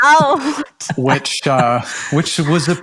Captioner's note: laughs